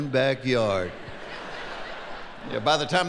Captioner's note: laughing